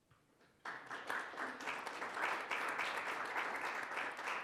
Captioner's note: applause